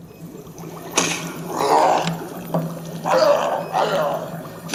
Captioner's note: grunting